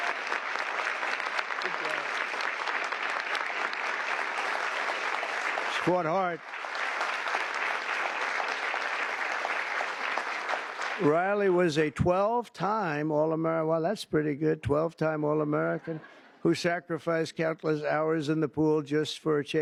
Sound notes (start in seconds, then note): 4.3 applause